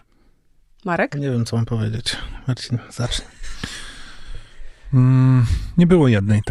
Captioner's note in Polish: śmiech